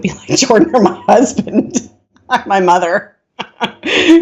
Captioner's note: laughing